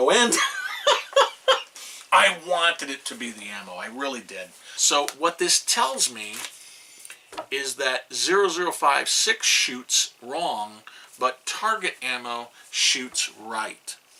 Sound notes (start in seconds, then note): 0.3 laughs